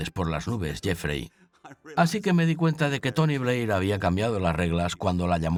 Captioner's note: chuckles